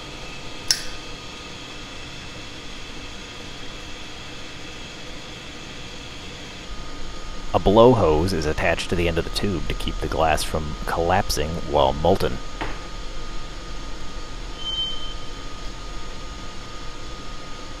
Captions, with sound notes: [lighter clicks closed] A blow hose is attached to the end of the tube to keep the glass from collapsing while molten.